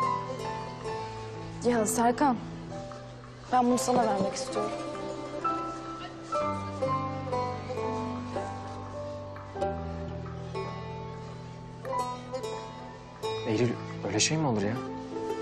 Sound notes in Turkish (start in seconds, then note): none